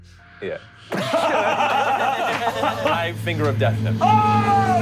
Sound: laughing

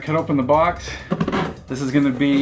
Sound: cracks

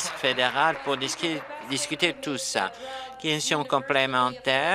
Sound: applause

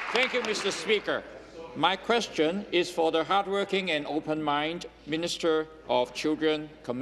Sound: applause

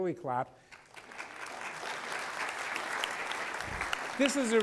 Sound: applause

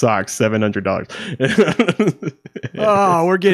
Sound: laughing

